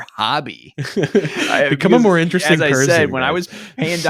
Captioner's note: laughs